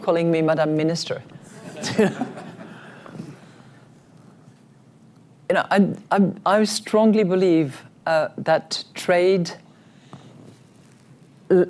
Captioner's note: laughter